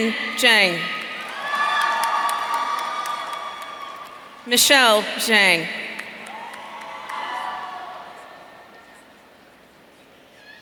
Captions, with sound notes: Ken Zhang. (audience cheering) Michelle Zhang. (audience cheering)